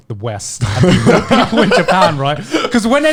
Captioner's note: laughing